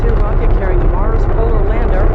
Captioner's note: rocket boosters blasting